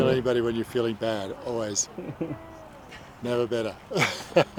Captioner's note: chuckles